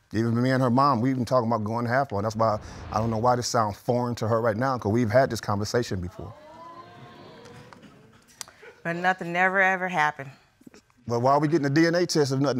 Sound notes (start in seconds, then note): 6.2 audience gasps